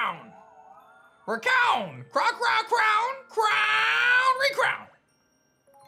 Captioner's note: Calyrex voice